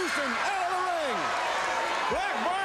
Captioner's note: crowd cheering